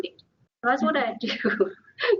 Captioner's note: laughs